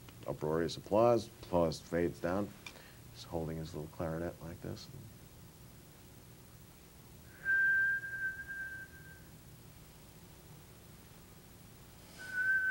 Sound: whistles

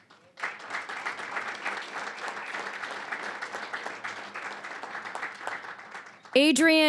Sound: applause

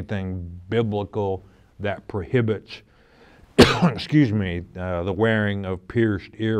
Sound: coughs

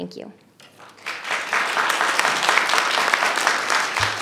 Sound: audience applauding

